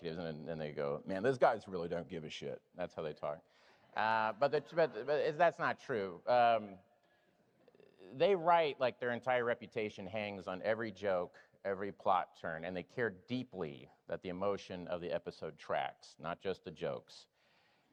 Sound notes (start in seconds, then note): none